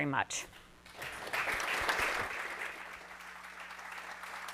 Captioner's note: audience applauding